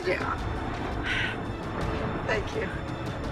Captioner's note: sighs